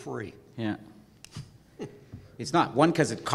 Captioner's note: laugh